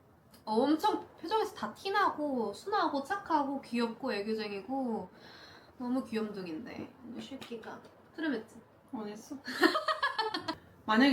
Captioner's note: laughter